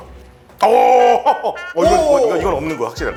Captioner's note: haha